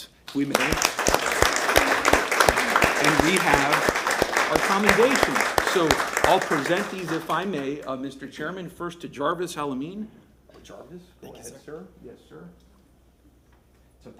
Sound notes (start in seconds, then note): 6.7 applause